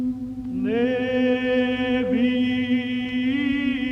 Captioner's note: chanting